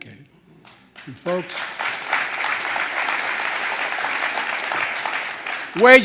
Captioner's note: applause